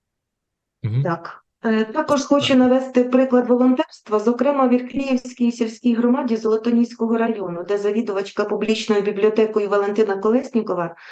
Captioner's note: foreign Language